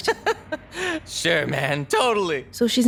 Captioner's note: laughs